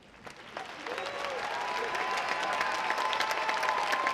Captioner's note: audience applauds